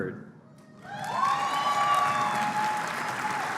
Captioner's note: applause